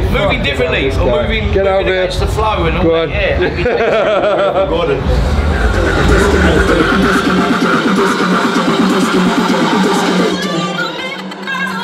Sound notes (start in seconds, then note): 3.4 all laugh; 7.9 techno music playing